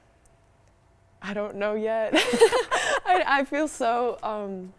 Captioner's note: both laugh